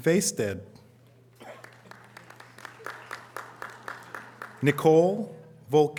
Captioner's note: audience applause